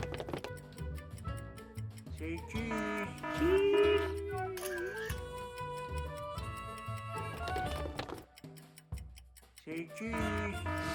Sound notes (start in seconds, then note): 0.1 family members shuffling; 2.6 clock alarm blaring; 4.7 background camera shutter clicking; 7.5 family members shuffling; 8.7 clock ticking; 10.0 clock alarm blaring